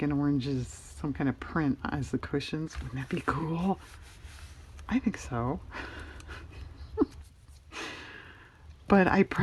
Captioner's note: laughs